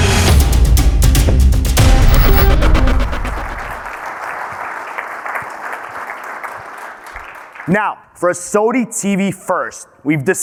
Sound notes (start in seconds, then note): 2.2 audience clapping